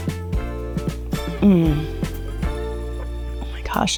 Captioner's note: upbeat music; mmm